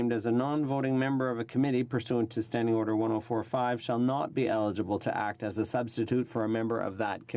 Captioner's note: speaking FRENCH